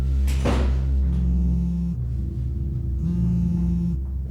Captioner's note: cellphone vibrating